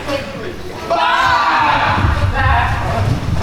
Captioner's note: baaing